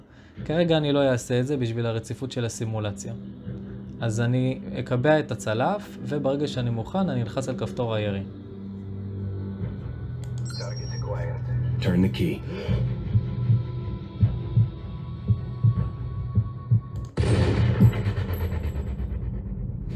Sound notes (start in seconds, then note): 12.6 Heart Beats; 17.1 Gun Shot